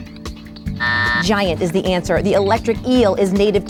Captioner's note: buzzer buzzes